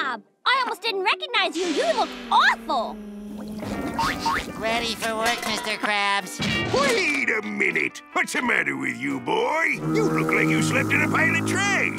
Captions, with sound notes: SpongeBob, I almost didn't recognize you. You look awful. [sniffing] Ready for work, Mr. Krabs. Wait a minute. What's the matter with you, boy? You look like you slept in a pile of trash.